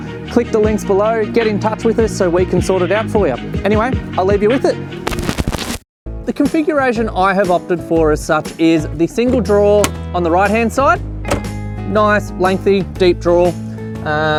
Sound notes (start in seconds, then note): 5.1 static crackles; 11.2 drawer clicks